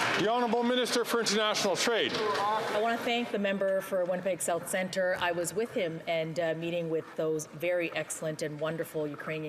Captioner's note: some Applause